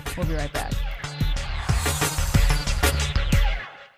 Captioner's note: intriguing upbeat music; air whooshing